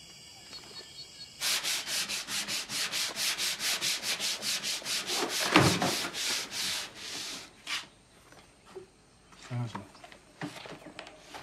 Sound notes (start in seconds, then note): 1.4 sanding on wood; 5.4 books falling on the floor